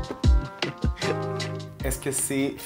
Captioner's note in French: rire